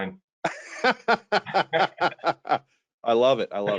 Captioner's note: laughing